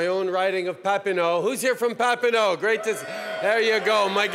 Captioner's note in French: Acclamations de la foule